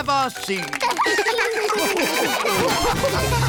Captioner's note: all laugh